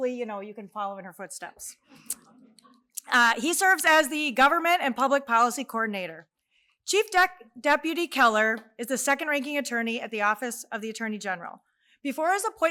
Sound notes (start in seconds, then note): none